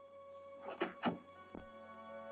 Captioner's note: door unlocking